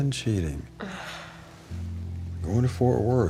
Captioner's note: sighs